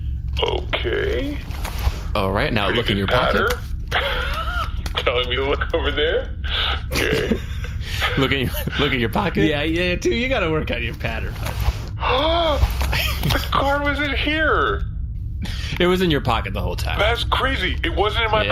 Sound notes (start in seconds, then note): 15.4 gasps